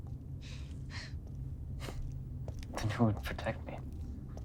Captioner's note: none